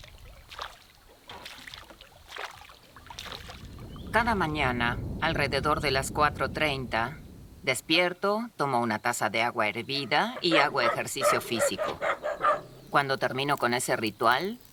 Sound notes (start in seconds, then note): 9.9 dogs barking